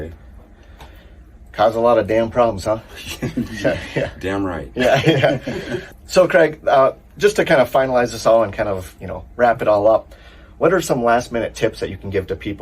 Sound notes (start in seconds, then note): 4.7 laughter